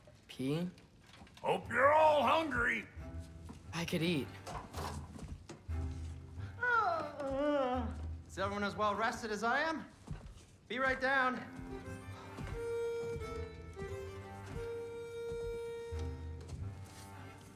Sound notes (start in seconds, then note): 6.3 yawn